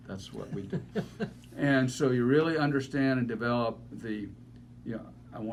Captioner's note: laughing